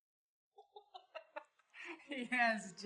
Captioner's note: laughing